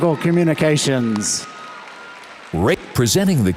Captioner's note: audience applauds